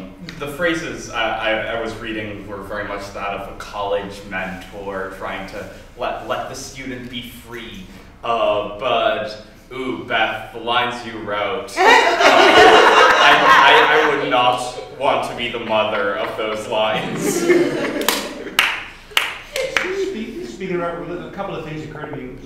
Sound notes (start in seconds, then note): 15.9 laughter